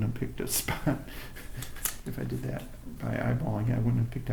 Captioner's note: laughter